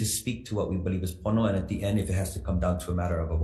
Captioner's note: speaks foreign language